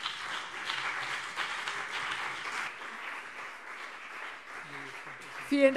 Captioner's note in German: Beifall CDU und BÜNDNIS 90/DIE GRÜNEN